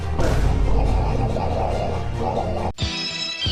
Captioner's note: loud gargling; upbeat music